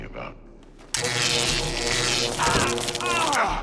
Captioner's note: zapping